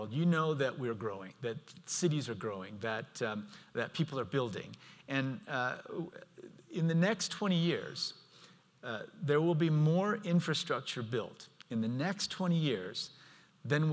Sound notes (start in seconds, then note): none